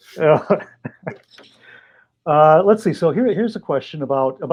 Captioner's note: laughs